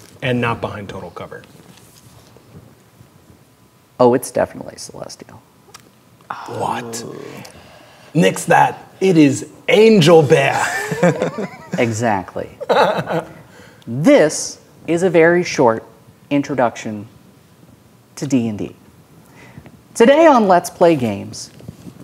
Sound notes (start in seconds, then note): 10.5 players laughing; 12.6 laughing